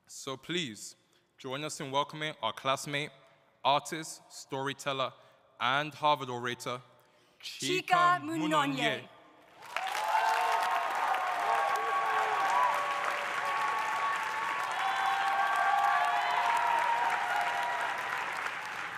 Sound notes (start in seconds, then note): 9.5 audience applauding; 9.6 audience cheering